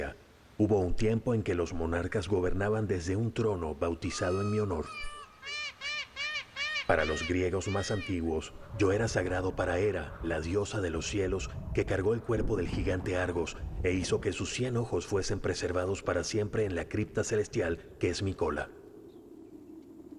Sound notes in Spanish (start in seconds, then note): 4.1 graznidos